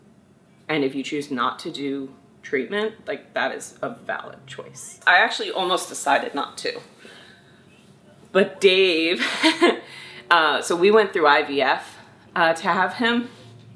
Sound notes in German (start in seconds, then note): 9.2 Mutter lacht